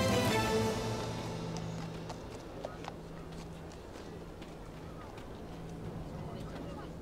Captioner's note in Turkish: Ayak sesleri